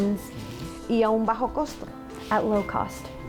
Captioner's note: speaking in Spanish